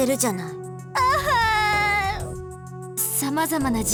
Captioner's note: sob